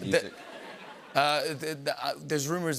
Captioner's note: laughter